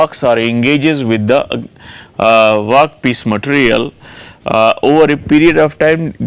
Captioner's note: grinding wheel